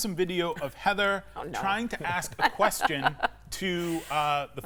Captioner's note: laughs